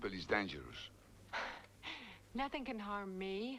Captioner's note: Hundra chuckles